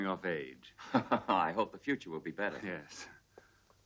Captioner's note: laughs